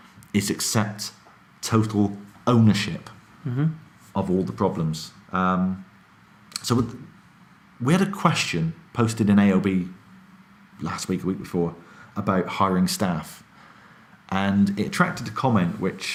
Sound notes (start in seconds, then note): none